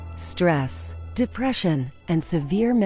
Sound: voiceover

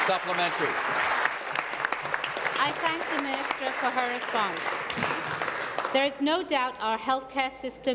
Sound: applause

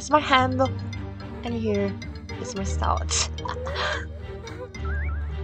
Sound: laughing

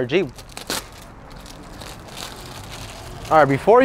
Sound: plastic packaging crinkling

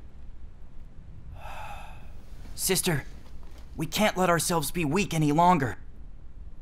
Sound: sigh

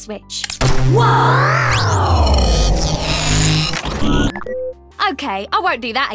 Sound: electronic whirring

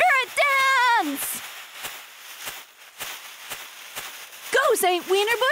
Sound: pom poms fluttering

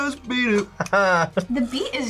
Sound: laughs

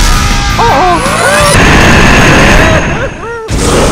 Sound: screaming

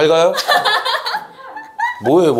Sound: hahahaha

